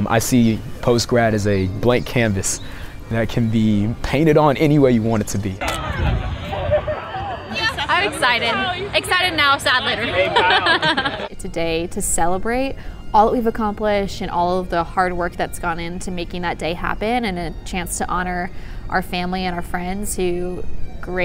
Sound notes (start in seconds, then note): 5.6 happy voices; 9.7 laughs